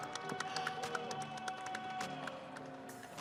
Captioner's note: audience cheering